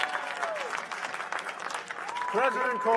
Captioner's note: cheers and applause